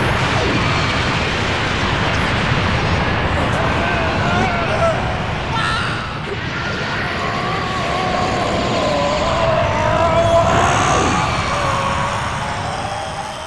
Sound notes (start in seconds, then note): 7.1 groaning; 9.4 Groaning turns to screaming as Gohan's blast rockets into space